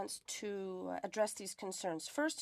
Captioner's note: speaking French